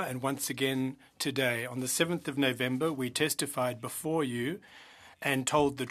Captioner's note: speaking French